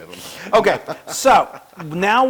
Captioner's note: laugh